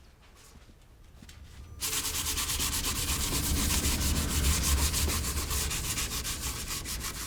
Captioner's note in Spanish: raspando papel de lija